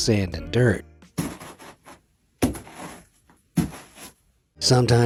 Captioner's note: fabric crunches